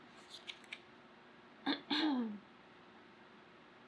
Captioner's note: clears throat